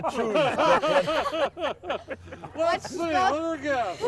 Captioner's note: everyone laughing